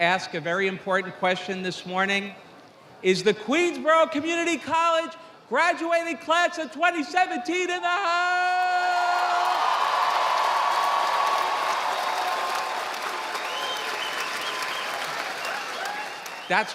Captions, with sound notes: to ask a very important question this morning. Is the Queensborough Community College graduating class of 2017 in the house? (audience applauding)